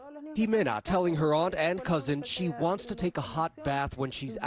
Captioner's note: speaking a foreign language